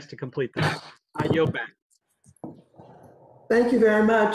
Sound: gavel

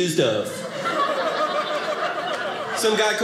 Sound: audience laughing

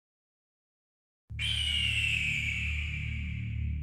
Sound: eagle screeches

